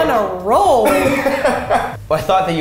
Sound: laughs

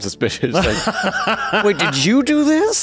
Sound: laughing

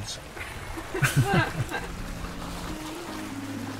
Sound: both laugh; calm instrumental music

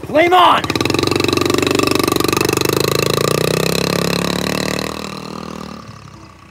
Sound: motorbike engine running

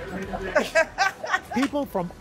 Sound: laughter

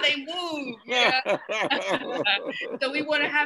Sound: group laughing

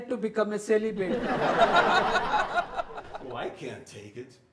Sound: audience laughs

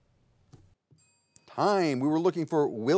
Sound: bell dings

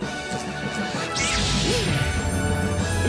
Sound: zap!

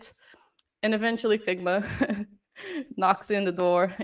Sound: laughter

